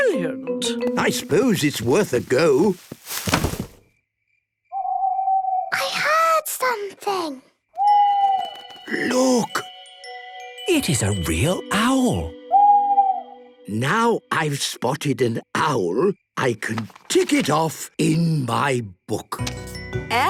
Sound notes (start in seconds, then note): 4.7 owl hooting; 7.8 hooting; 11.9 hooting